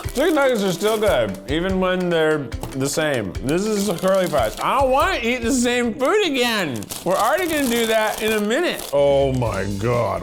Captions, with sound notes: Chicken nuggets are still good even when they're the same. This is the curly fries. I don't wanna eat the same food again. We're already gonna do that in a minute. (rustling) Oh my God.